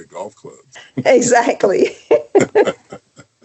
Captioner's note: laughs